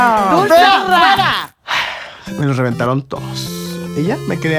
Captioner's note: sigh